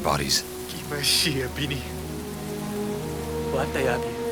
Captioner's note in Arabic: الصوت المنطوق البدوي